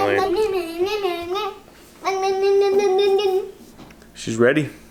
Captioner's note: babbles